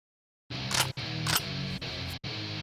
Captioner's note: heavy rock music; gun cocking